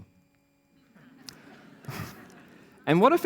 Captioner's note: laughter